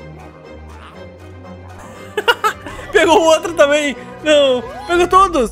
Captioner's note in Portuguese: risos